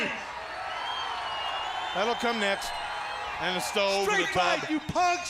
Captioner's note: crowd cheering